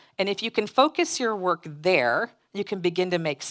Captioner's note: none